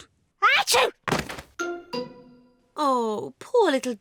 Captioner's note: sneezes